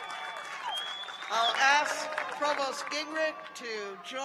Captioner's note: cheers and applause